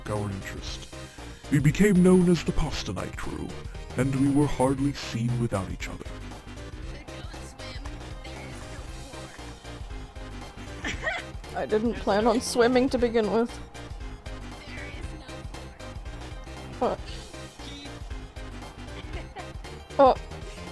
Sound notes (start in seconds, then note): 10.6 laugh!